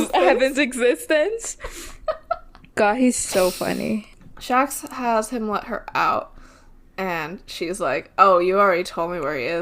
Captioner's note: laughing